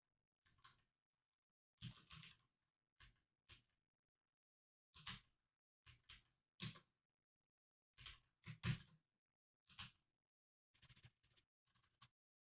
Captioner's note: typing sounds